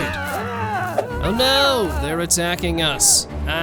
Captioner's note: soldier, speaking bored